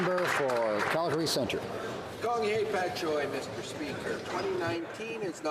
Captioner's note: speaking alternate language